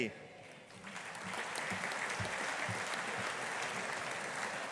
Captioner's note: audience applauding